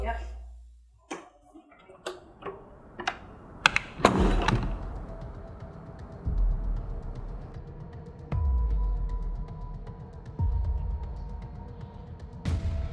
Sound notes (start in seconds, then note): 2.3 clicks